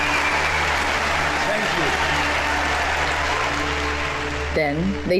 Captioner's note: audience continue applauding